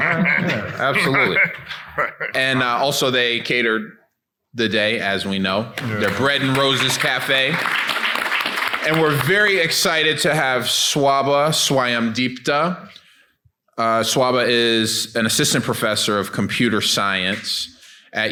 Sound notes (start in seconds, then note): 5.7 people clapping